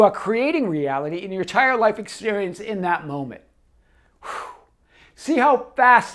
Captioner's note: exhales